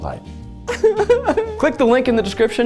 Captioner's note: whimpers